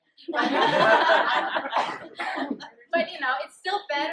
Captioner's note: laughter